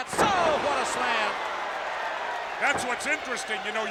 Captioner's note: audience cheers